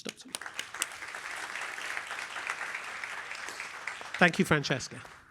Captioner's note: applause